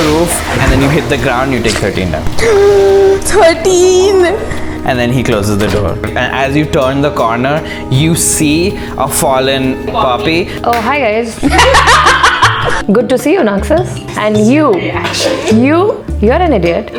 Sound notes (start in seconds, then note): 3.2 gasp; 11.4 laughter